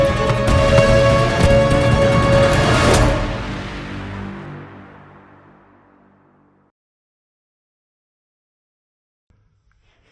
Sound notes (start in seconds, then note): 2.9 silence